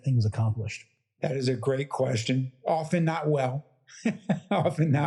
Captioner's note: laugh